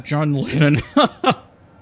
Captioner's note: laughs